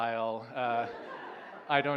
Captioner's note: laughter